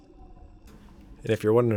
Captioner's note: water Sounds